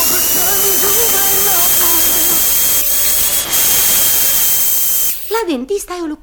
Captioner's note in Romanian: Freză de dentist